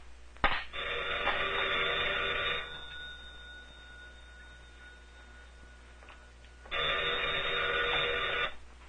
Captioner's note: phone ringing